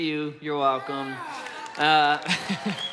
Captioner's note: congregation cheers; laughs